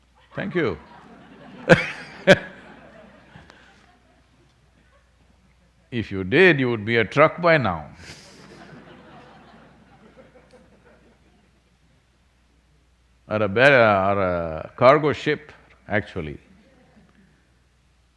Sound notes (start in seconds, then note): 2.9 laughter; 11.6 few laugh